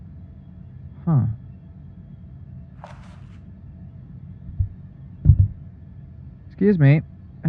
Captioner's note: object being picked up